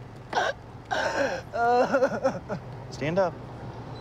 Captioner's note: crying